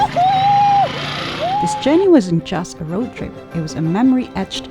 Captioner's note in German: jubelnd